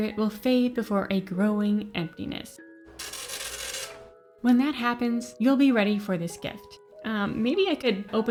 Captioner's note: fax machine printing